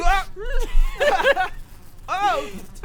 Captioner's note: sobs